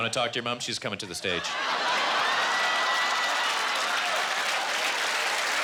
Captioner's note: audience applauding